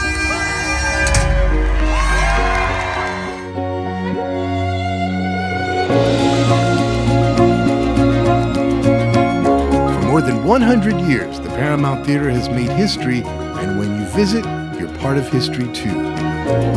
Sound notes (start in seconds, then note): 0.0 crowd applauds; 3.7 bright upbeat music; 16.5 bright upbeat music